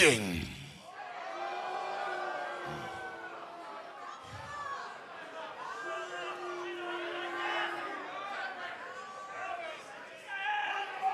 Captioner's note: crowd cheering